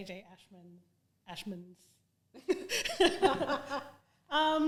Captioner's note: both laugh